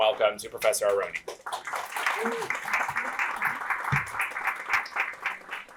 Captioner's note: applause